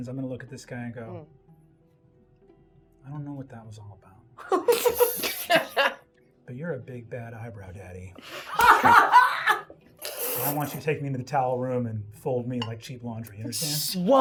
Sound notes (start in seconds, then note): 8.2 everyone laughing